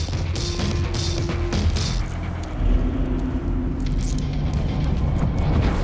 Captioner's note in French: Clic des menottes